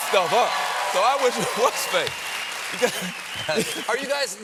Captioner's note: cheers and applause